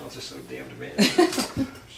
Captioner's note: laughing